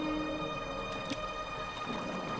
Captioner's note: light splash